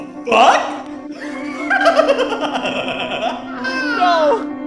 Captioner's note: Tinky laughing